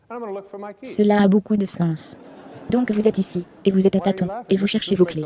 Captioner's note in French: rire de l'audience